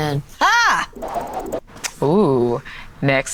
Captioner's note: yelling